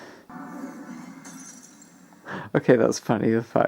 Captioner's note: glass shatters